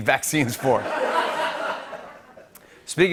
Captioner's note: laughter